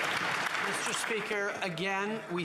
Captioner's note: applause